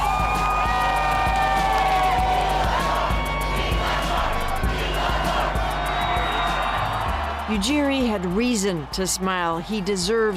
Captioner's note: cheers and Applause